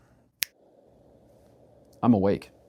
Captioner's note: snap